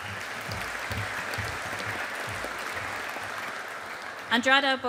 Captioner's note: audience applauding